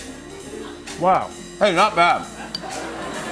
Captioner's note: laughter